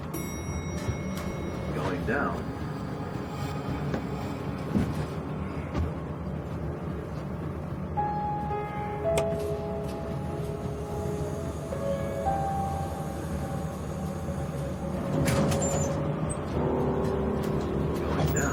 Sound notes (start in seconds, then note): 0.0 elevator dings; 2.4 voice-over; 4.5 suspenseful music